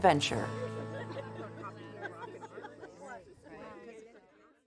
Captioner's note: group laughing